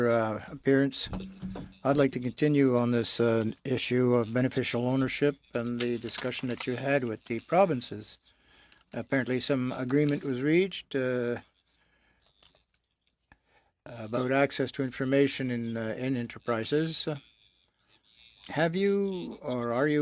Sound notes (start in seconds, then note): 2.3 speaking in french